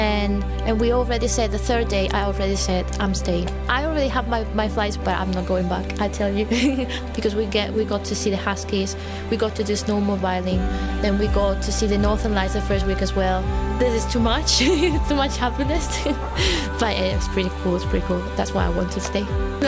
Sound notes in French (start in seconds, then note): 6.5 rires; 14.5 rires